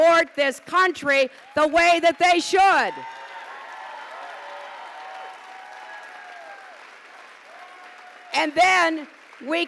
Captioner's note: applause